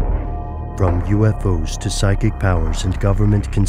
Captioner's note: voiceover